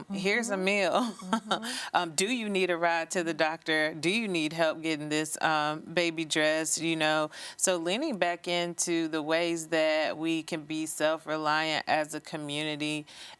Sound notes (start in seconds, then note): 0.9 chuckling